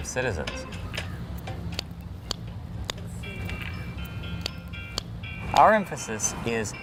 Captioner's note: clicking sounds